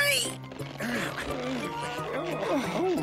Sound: grunting

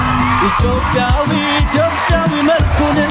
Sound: scream and applause

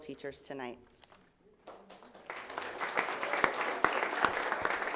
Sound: audience applauding

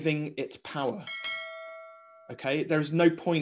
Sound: bell dinging

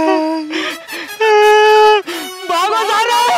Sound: crying

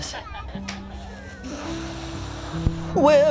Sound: uses inhaler

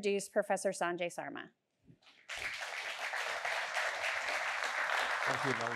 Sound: applause

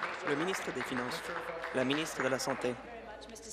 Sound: applause

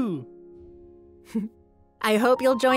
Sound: giggling

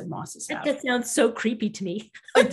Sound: laughing

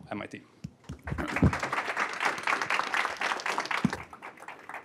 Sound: applause

